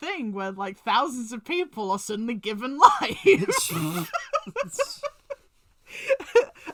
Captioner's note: laughs; chuckles